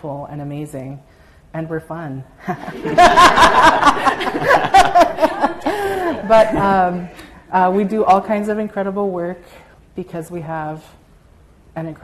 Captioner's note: audience laughter